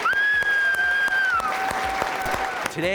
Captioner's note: cheers and applause